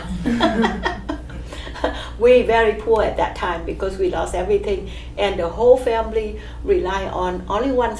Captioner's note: all laugh